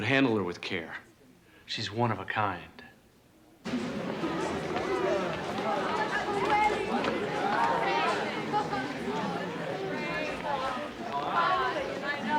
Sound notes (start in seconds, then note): 3.6 indistinct chatter